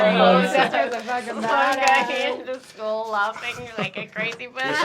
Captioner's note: laughing